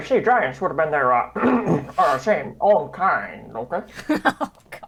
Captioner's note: clears throats; laughs